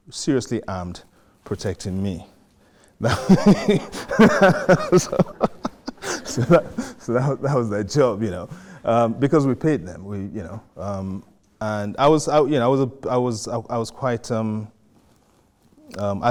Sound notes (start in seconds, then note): 3.0 laughs